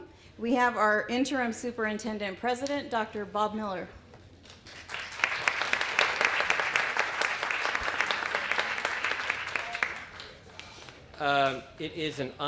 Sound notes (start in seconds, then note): 4.5 applause